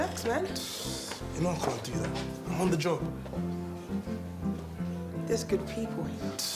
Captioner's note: exhales